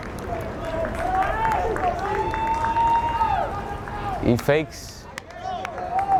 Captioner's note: crowd cheering